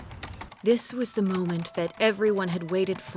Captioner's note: typing